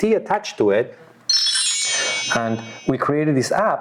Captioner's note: cellphone beeping